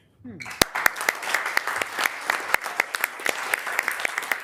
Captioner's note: members applauding